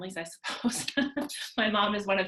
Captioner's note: chuckling